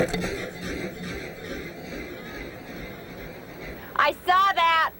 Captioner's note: dramatic ambient notes; wood cracks